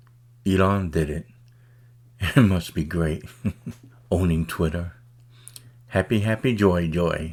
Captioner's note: laughs